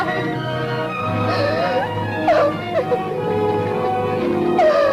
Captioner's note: Carla sobbing